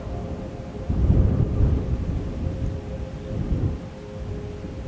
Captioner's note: wind blowing